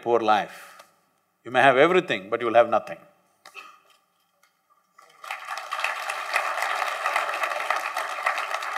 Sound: applause

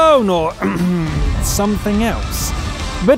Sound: cough

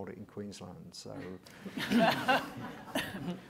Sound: laughter

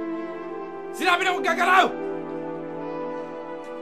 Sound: shouts

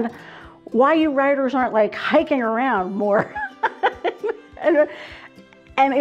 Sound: laughs

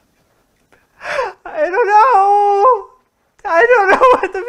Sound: gasp

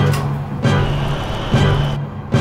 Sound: fiery rumble

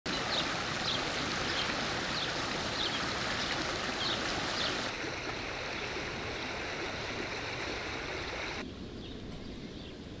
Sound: sound of nature

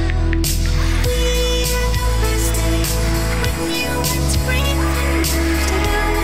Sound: crowd cheering and shouting in joy

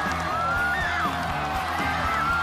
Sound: passion and cheers

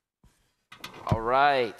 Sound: metal creaking

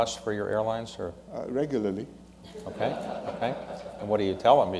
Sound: laughter

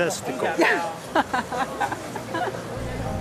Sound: laughs

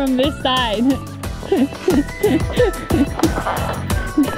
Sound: giggles

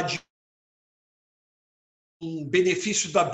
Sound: break in audio

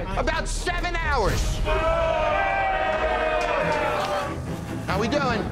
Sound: boos

